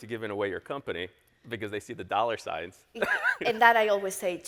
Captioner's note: laughs